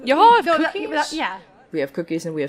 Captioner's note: stammers